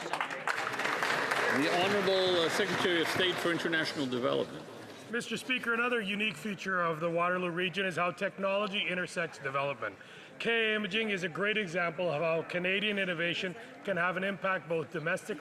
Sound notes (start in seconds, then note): 4.9 some Applause